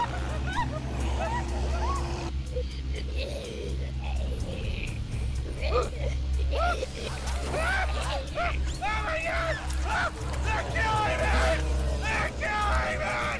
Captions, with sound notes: (zombies growling) - (screaming) Oh my God! Let go of me! Let go of me!